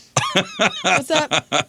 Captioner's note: laughter